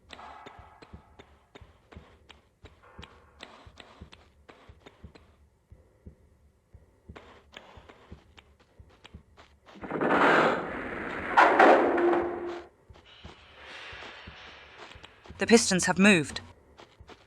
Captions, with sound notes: *Loud lever* + * loud mechanical sound* The pistons have moved.